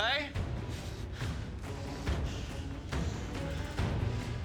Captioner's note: both panting